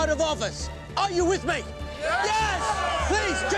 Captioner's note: crowd cheering